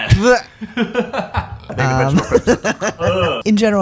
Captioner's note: laughter